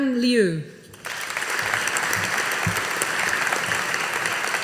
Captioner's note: audience applauding